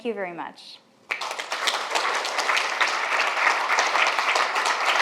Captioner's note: audience applauds